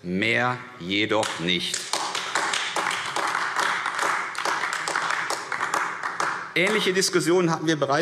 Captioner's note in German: Beifall AfD